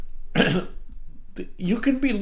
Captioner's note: clears throat